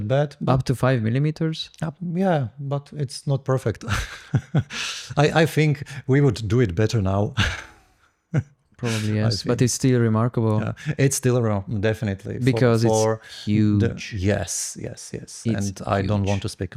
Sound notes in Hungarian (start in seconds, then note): 3.8 nevetés